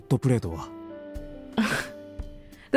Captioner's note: exhales